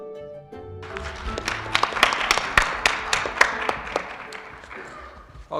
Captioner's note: applause